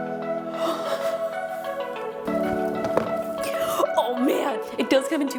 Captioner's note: Justine gasping; upbeat music